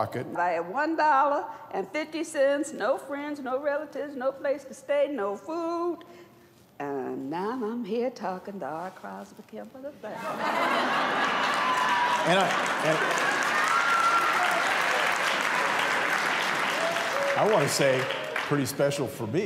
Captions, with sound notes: I had $1.50, no friends, no relatives, no place to stay, no food. And now I'm here talking to R. Crosby Kemper III. [laughter] [cheers and applause] I want to say, pretty special for me